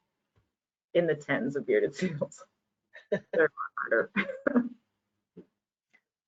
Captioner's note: laughs